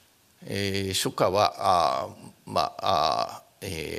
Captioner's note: speaking japanese